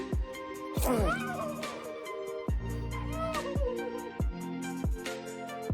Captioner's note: crying